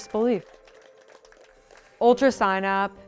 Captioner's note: crowd applauds